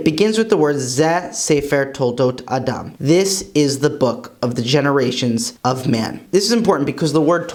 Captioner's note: Hebrew